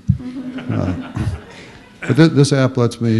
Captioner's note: laughter